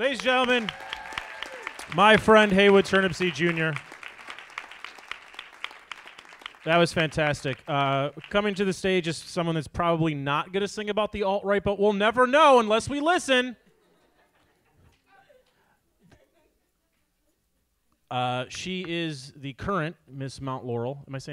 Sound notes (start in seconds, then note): 1.0 audience applauds; 3.8 audience applauds; 13.8 audience laughs